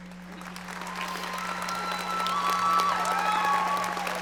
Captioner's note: audience applauding